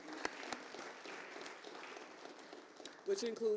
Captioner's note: applause